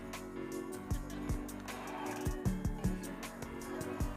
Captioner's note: crowd cheering